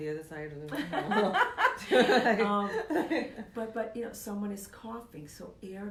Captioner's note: laughing